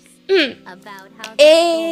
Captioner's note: ahem